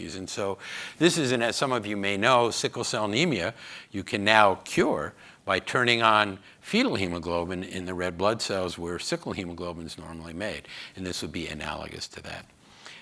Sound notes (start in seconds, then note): none